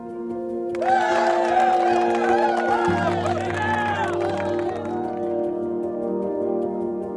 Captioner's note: cheers and applause